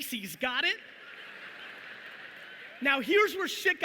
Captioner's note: audience laughing